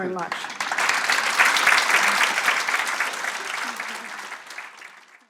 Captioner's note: applause